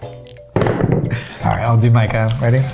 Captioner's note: spoon thuds